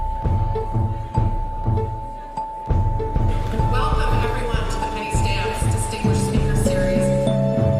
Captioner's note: rhythmic percussion music; audience applauds